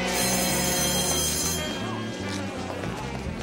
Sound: bell rings

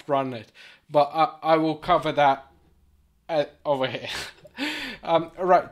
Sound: chuckles

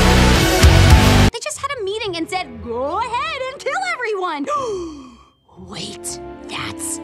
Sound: gasp

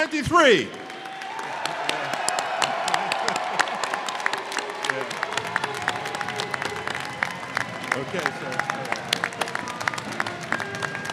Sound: applause

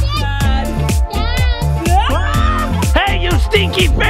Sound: screams

